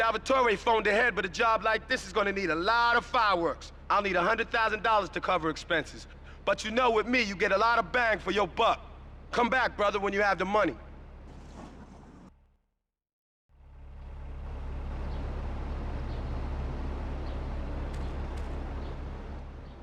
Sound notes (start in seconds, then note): 11.7 tires screeching